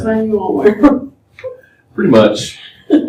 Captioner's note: laughter